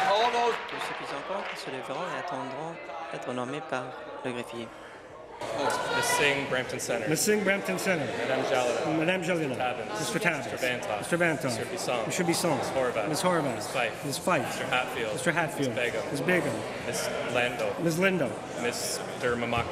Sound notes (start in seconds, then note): 0.0 cheering; 0.0 applause